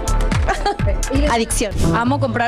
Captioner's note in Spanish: risas